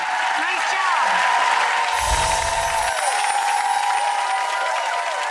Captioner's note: audience applauds